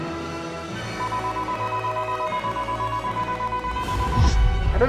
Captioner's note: beeping